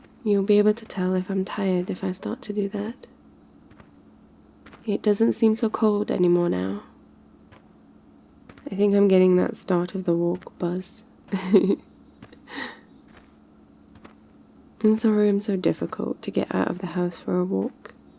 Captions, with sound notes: you'll be able to tell that I'm tired if I start to do that it doesn't seem so cold anymore now I think I'm getting that start of the walk buzz *goofy laugh 1* I'm sorry I'm so difficult to get out of the house for a walk